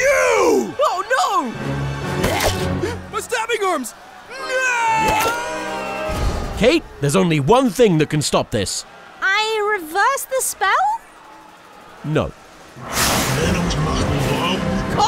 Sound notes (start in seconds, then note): 2.9 gasp; 12.8 thunder and lightning